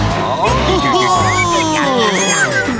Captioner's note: chuckling